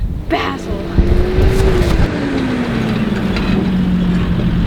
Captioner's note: sound of Jeep motor